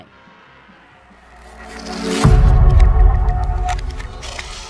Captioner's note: air whooshing